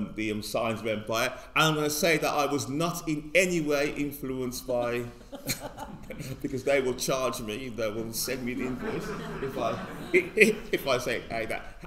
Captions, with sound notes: the "Signs of Empire." And I'm gonna say that I was not in any way influenced by, (all laugh) because they will charge me, they will send me the invoice (all laughing) if I say that.